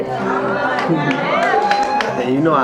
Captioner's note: audience cheers